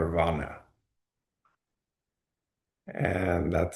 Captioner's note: pause